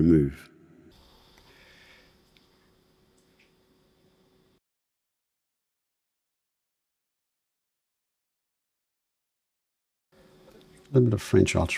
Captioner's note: silence